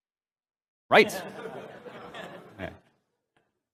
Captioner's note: laughter